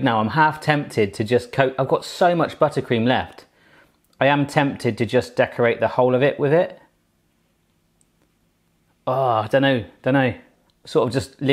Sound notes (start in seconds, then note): none